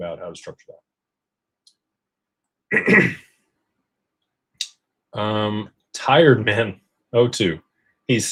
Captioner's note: clears throat